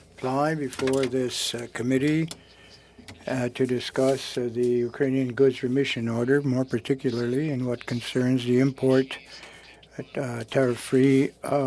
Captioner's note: speaking French